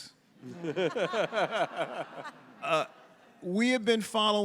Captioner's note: all laughing